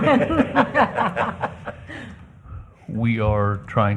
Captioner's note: laughter